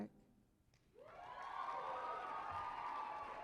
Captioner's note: cheering and applause